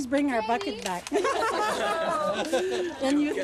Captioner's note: laughter